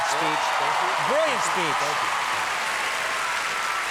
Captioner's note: audience applause